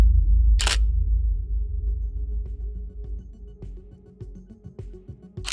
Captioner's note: dramatic tone swelling; camera snapping photo